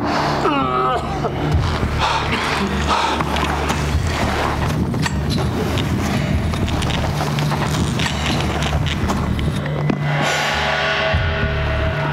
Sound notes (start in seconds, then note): 4.7 sounds of heavy breathing